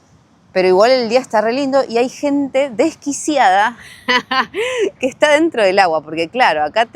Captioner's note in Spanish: risas